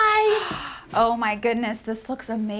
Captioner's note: gasps